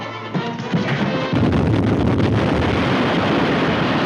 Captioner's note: explosive booming